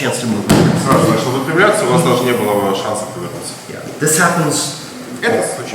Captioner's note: speaking in a foreign language